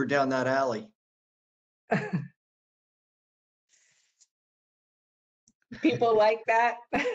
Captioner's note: laughter; laughter